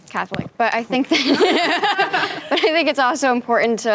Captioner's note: teens laughing